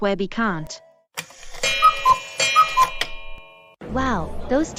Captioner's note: clock sound & time card